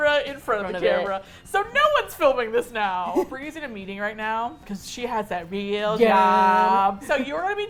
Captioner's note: teasing